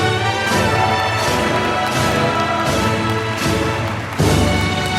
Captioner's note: applause